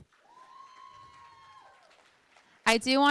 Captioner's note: cheering